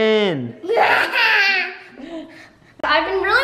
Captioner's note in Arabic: صراخ